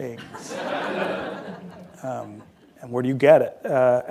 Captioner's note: laughter